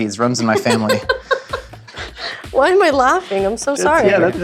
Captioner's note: laughs